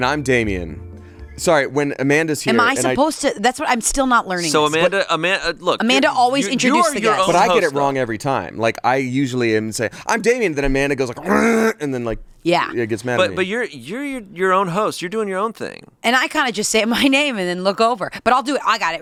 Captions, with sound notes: - And I'm Damien. (gentle music resumes) Sorry, when Amanda's here- - Am I supposed to... I'm still not learning this. - So Amanda, Amanda, look- - Amanda always introduces the guest. - But I get it wrong every time. Like, I usually say, "I'm Damien," then Amanda goes like (groans) And then like- - Yeah. - Gets mad at me. - But you're your own host. You're doing your own thing. - And I kind of just say my name and then look over. But I'll do it.